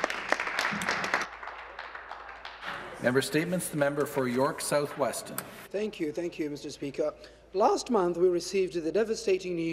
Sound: applause

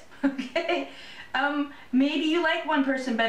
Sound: laughter

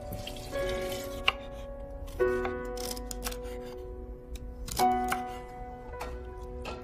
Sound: chopping

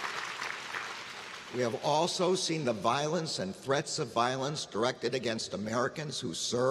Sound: applause

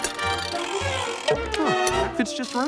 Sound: whirring

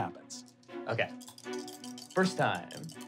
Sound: rolling dice

